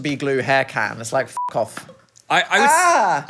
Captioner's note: beep